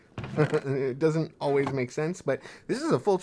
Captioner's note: laughs